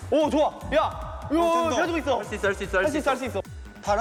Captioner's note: breathing in and out